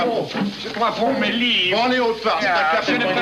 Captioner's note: speaking french